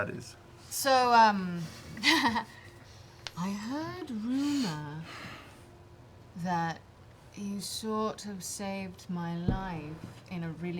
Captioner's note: laughs